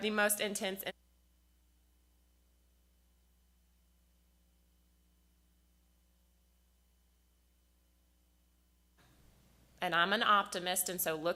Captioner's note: loss of Audio